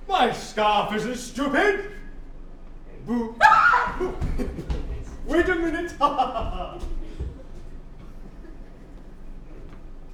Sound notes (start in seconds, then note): 6.6 laughs